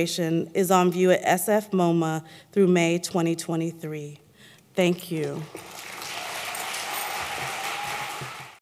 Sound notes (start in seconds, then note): 5.2 applause